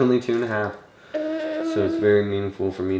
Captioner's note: coos